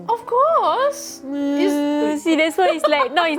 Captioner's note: sobbing sounds